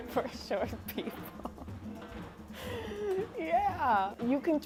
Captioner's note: laughs